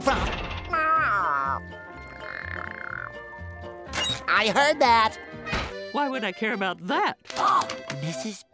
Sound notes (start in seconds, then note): 2.1 chattering